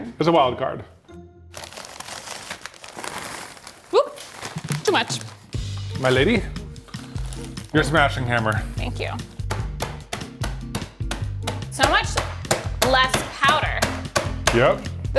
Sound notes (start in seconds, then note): 1.6 Takis rattling; 9.4 hammer tapping; 9.8 slow jazz music